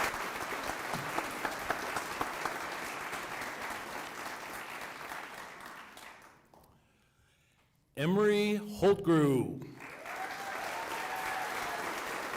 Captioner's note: applause